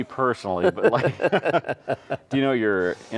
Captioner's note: both laughing